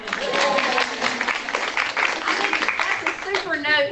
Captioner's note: applause